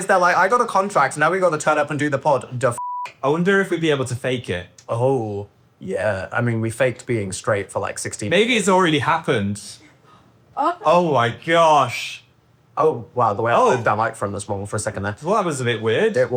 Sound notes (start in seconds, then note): 2.8 beep